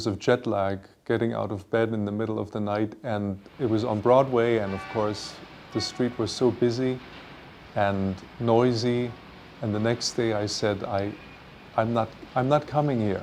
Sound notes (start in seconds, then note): 4.0 car horns honking